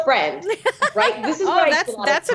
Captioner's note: laughing